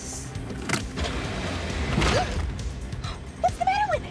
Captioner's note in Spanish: revoluciones del motor del automóvil, paradas